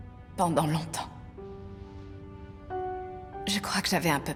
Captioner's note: none